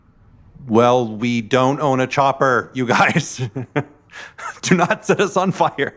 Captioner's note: laughing